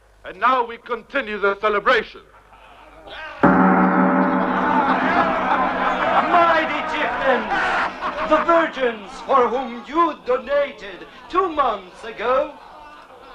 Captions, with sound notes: And now we continue the celebration. (Gong resonating) (Men reveling) - Mighty chieftains, the virgins for whom you donated two months ago